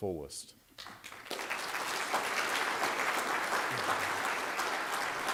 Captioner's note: applause